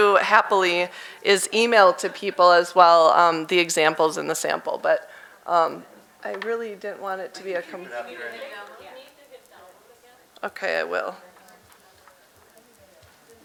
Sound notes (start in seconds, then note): 8.4 audience mumbling